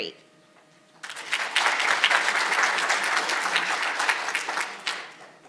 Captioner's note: audience applauding